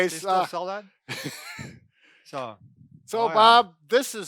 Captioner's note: laughs